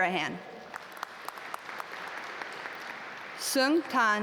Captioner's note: audience applaud